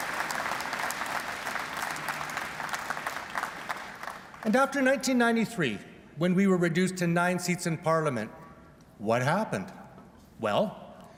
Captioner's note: applause